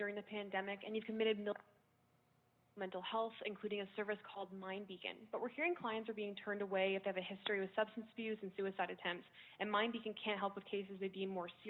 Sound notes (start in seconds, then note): 2.1 audio lost